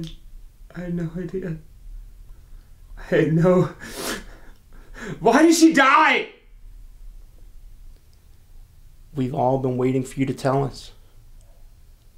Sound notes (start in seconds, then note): none